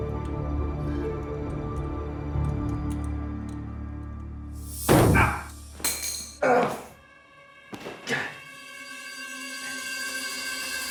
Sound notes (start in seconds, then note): 5.7 tool clatters; 6.4 ominous music